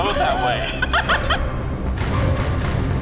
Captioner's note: laughs